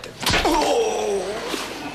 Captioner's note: screaming